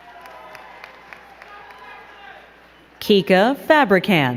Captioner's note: crowd cheering and clapping